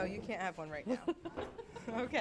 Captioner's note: laughs